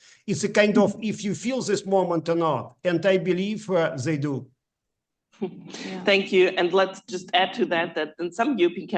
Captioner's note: laughs